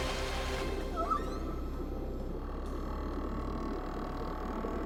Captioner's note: whalesong